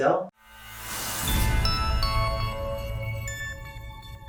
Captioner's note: logo whooshing